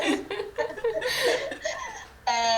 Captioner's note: laughs